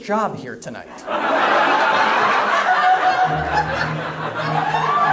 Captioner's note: audience laughs